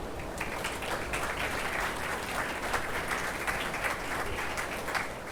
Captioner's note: attendees applauding